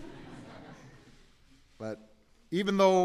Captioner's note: laughter